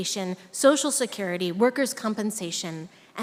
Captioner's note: none